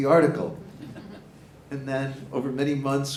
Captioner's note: audience chuckling